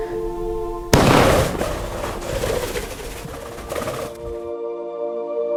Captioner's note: gun firing; somber music